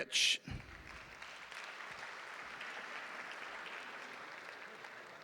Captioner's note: audience applauding